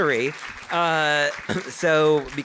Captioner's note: audience applauding